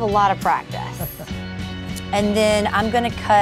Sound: laughs

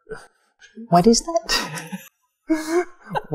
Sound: laughs

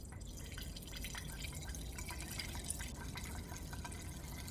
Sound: urine trickles

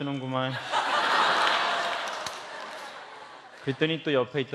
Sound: laugh

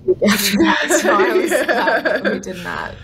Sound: laughter

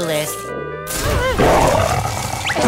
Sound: growling

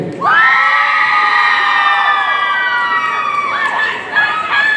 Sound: audience cheering

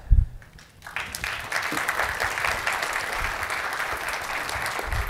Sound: audience applauding

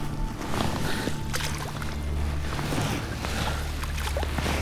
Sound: water splashes

